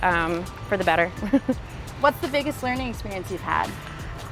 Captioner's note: chuckles